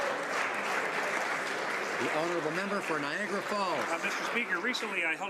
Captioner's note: some Applause